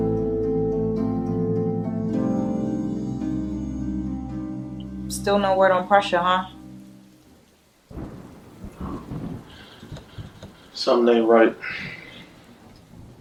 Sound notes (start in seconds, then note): 0.0 eerie music; 7.7 rain pouring